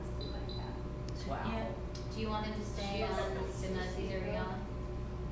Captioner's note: chatter